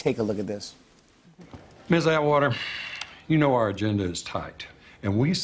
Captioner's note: sighs